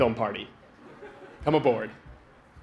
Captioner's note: laughter